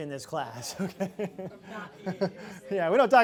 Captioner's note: laughs